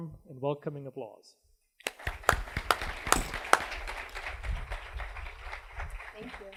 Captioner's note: applause